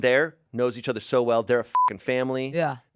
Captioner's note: beep